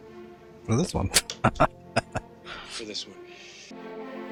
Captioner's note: laughing